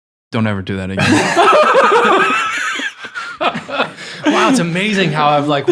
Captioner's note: group laughing